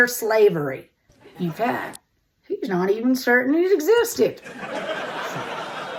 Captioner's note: audience laughter; audience laughter